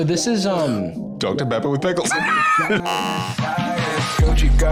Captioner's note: laughs; outro music